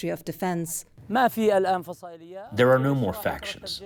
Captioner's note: through translator